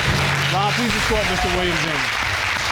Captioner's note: audience applauding